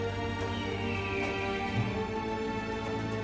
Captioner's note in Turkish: Kartal ötme sesi